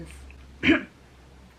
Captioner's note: clears throat